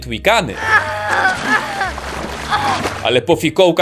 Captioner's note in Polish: jęczenie katniss